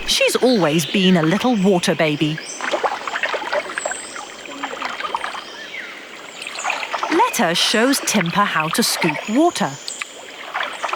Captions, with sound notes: She's always been a little water baby. (birds chirping) Letta shows Timpah how to scoop water.